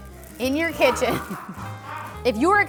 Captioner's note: laughing